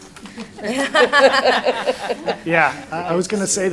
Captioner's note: laughter